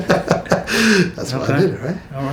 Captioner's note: laughing